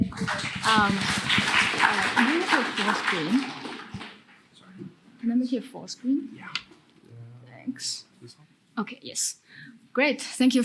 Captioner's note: applause